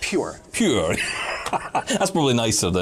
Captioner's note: laughing